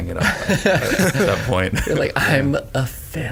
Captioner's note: all laughing